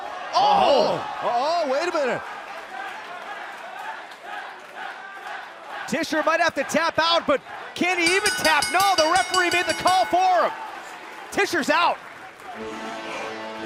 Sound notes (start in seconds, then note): 3.2 fans chanting; 8.0 bell